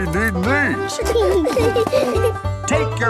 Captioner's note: laughing